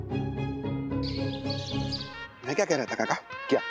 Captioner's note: mellow music; birds chirping